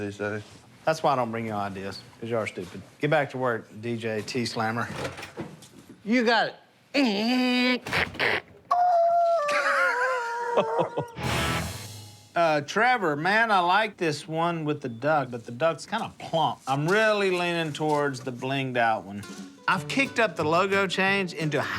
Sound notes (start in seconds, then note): 7.6 squeals